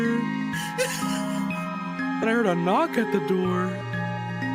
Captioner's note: laughs